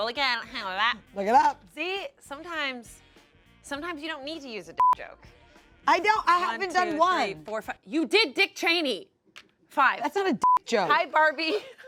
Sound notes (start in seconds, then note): 4.8 beep; 10.4 beep; 11.2 laughs